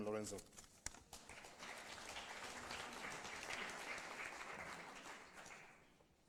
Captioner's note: applause